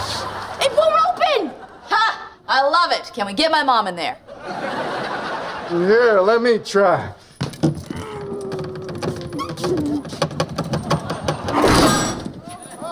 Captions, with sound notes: It won't open! Ha, I love it, can we get my mom in there? [laughing] Here, let me try. [groaning]